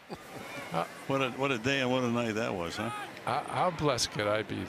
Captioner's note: laughs